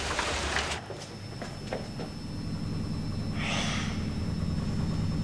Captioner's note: running machine